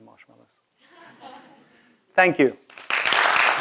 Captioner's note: laugh; applause